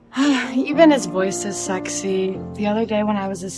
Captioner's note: sighs